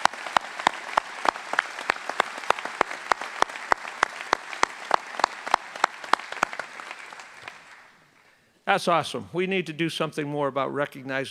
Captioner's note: applause